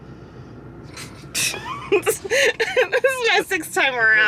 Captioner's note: laughs